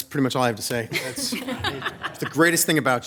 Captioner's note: audience laughing